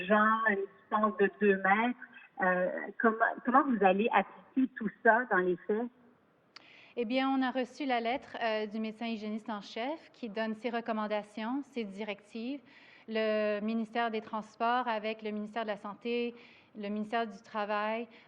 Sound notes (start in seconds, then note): 5.3 speaks French